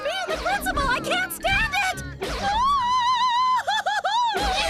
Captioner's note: wailing; both crying